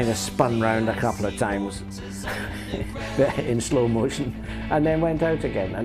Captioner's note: chuckles